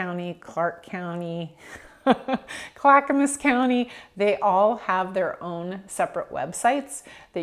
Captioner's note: laughing